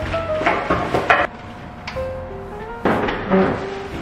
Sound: bags thud

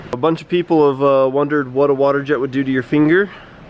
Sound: none

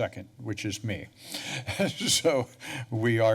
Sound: chuckles

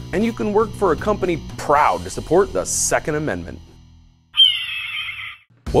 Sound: eagle scream!

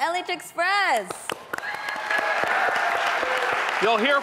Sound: audience applauding; audience cheering

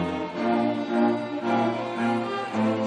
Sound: none

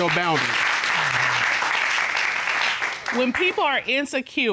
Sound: applause

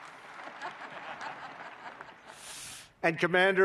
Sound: laughter

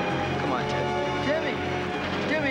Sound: door closes

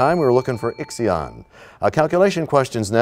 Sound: bell rings, time expires

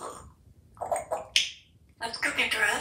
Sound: slurping sound; drinking water sound

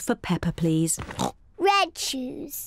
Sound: oinks

